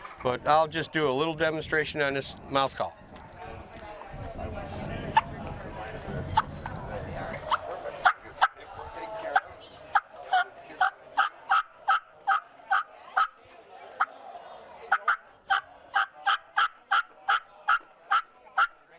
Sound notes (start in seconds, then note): 5.4 turkey call clucking